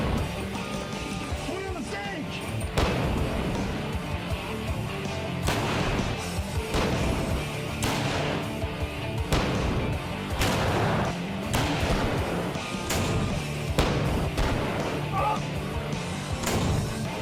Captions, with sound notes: Put on the sage! [GUNSHOTS]